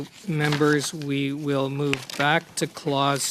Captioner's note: speaking French